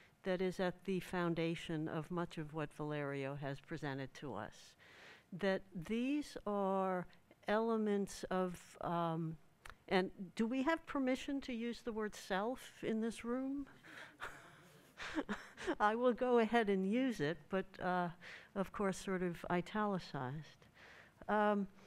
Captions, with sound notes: that is at the foundation of much of what Valerio has presented to us, that these are elements of-- Do we have permission to use the word "self" in this room? [chuckles] I will go ahead and use it but, of course, italicized.